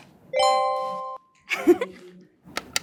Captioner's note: tone dings; Bella chuckles